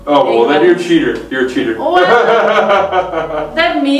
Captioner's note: laughs